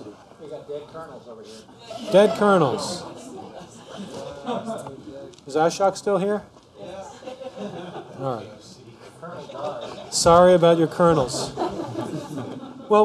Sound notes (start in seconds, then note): 1.6 laughter, chatter; 6.9 laughter